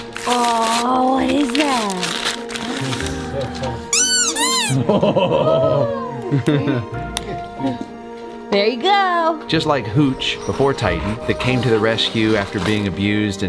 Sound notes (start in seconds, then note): 3.0 gasps; 3.9 toy squeaks